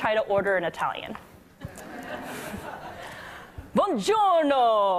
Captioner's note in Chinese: 笑聲